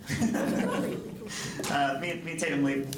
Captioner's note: laughing